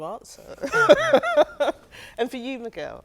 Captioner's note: group laughs